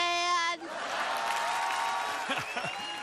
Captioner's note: audience laughter and applause